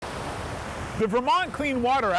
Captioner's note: waves crashing